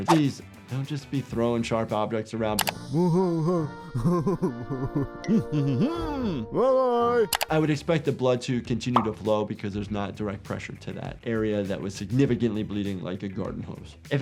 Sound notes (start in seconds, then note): 2.8 Lumpy laughing; 5.5 Splendid humming